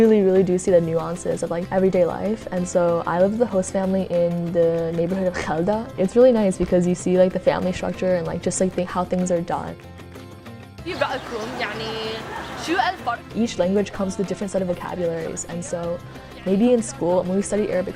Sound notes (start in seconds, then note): 10.5 speaking Arabic